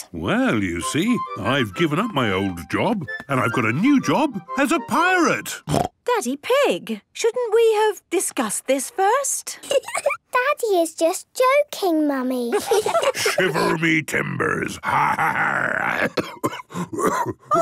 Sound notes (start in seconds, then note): 9.9 laugh; 12.7 menacing voice; 14.8 growls; 15.9 cough